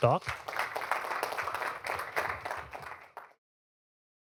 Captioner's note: applause